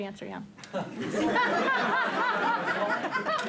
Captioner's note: laughter